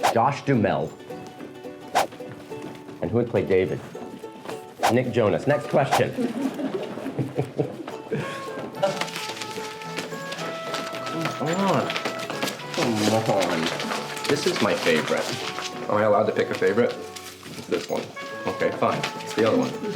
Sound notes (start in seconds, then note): 5.9 laughs; 8.1 soft music